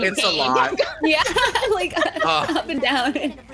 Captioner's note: laughs